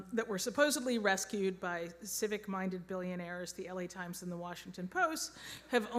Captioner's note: none